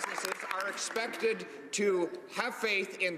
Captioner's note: some Applause